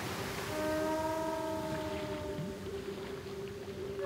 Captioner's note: whales calling